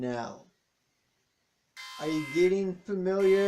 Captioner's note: sound of alarm